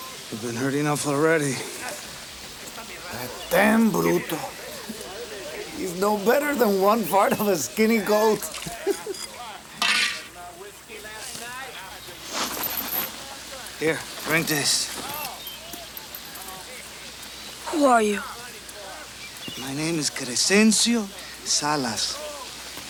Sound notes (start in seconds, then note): 9.4 giggles; 12.3 chain clinks